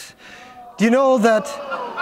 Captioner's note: laughter